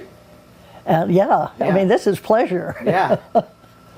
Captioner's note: laughs